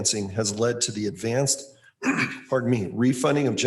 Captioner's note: clears throat